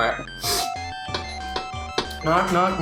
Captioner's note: door bell ringing